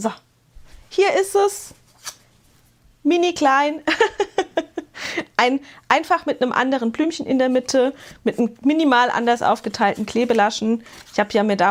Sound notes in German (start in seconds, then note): 3.8 gelächter